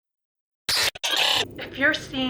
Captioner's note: distortion